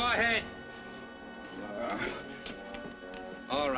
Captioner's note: groans